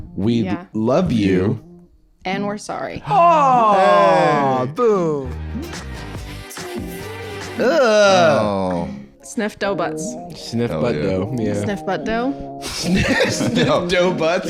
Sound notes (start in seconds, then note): 7.6 both groaning in horror